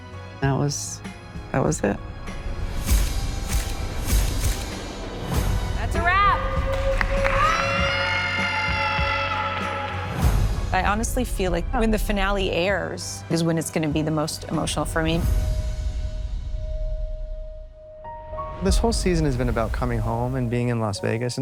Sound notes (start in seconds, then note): 3.5 camera shutters clicking; 6.0 all cheering, applauding